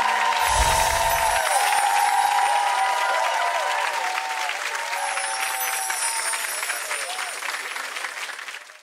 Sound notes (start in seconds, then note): 0.0 audience cheers, applauds; 4.8 bells tinkle